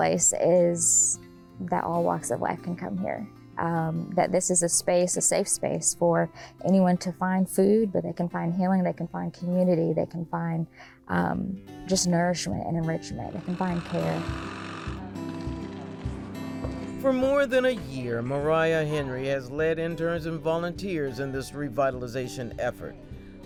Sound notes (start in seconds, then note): 13.3 saw whirring